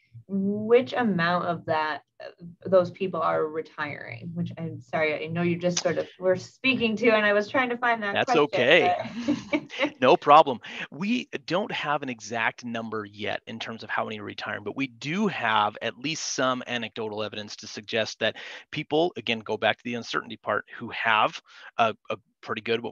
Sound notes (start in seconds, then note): 8.1 laughs